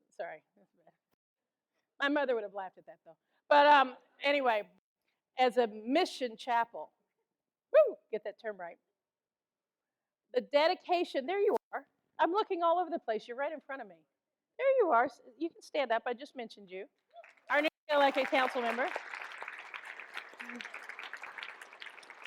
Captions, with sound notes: Sorry, my mother would have laughed at that though. Anyway, as a mission chapel. Whoo, get that term right. The dedication, there you are. I'm looking all over the place, you're right in front of me. There you are, you can stand up, I just mentioned you. Our newly elected council member. (audience applauds)